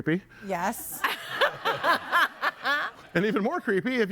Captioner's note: laughing; audience laughing